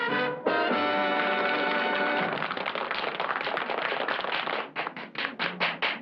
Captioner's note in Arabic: تصفيق